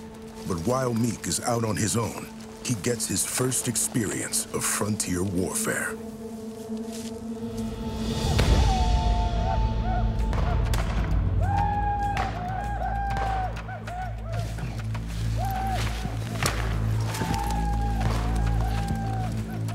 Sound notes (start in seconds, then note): 6.0 tense music; 9.1 nearby whooping sounds, gunshots